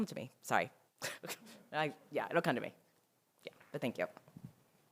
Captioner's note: laughs